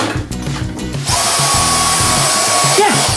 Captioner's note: buzzing